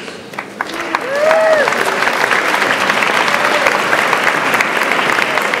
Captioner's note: audience applauds